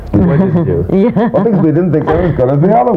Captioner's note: laughing